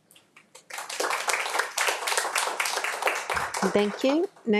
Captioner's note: attendees applauding